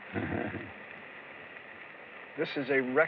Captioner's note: chuckles